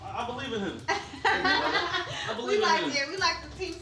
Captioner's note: laughing